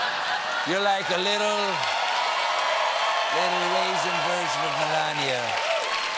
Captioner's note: applause